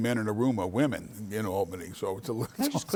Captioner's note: laughs